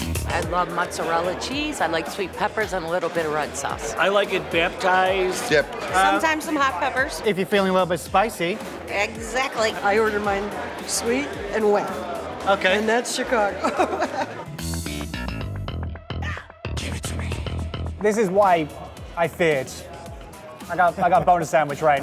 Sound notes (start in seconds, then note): 13.5 laughter; 14.6 funk music; 21.8 laughter